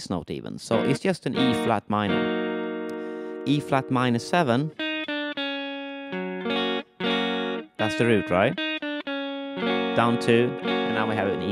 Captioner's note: frets